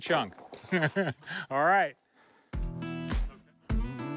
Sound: laughs

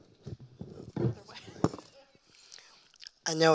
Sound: mic rattling; laughs

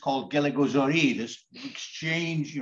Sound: foreign language

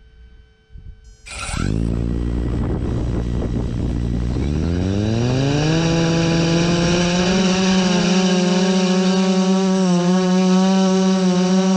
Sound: propeller noise

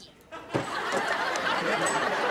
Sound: laughing

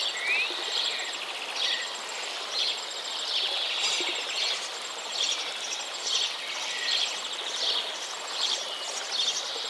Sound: water, birds chirping, walking

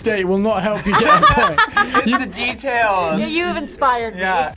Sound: laughs

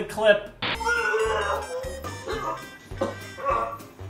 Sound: excessive vomiting

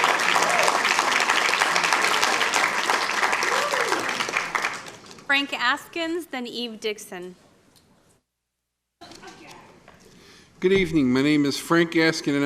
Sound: applause

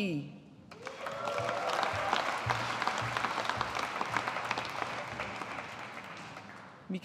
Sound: audience applauding

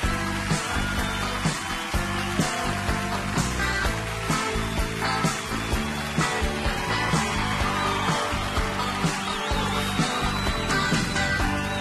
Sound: audience cheering

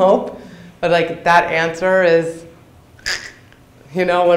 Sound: makes slicing noise

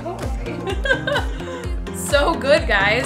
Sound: laughing

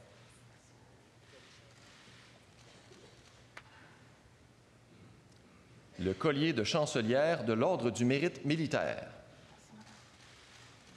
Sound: speaking French

